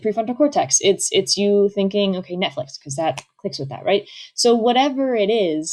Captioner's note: snaps